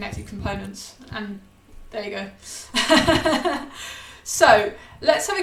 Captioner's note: laughs